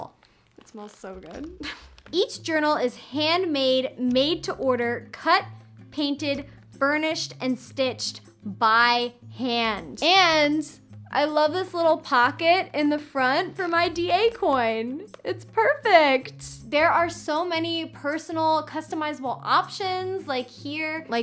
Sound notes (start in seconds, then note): 1.6 chuckles